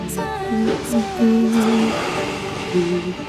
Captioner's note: humming